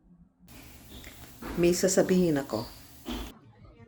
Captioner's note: filipino